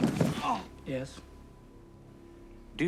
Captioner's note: Bobby groans